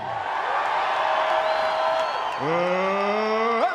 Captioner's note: crowd cheering